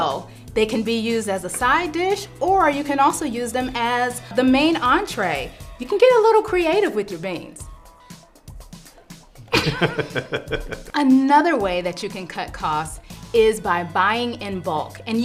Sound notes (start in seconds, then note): 9.5 laughter